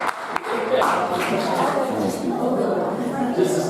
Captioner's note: audience applauding